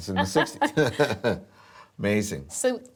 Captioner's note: laughter